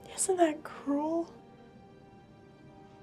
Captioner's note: none